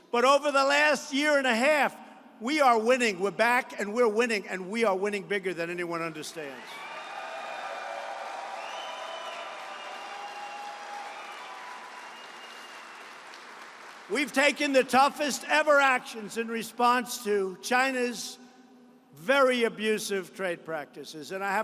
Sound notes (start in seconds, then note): 6.6 applause